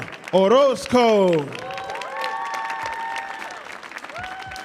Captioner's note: audience cheering